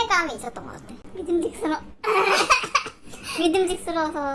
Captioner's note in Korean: 웃음